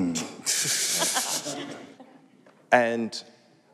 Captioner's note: laughter